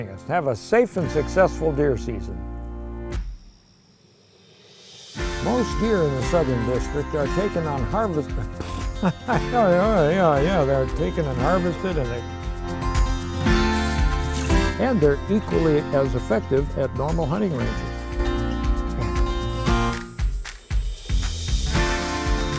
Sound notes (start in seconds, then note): 8.5 laughing; 13.0 upbeat acoustic guitar music; 18.4 upbeat acoustic guitar music